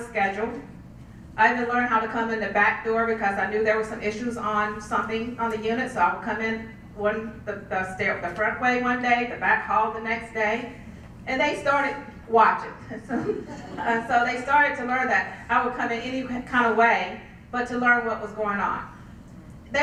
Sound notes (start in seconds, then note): 13.0 laugh